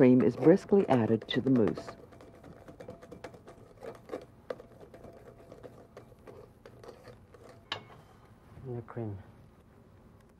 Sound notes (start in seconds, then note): 4.3 whisk tapping